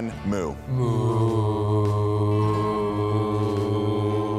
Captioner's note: both mooing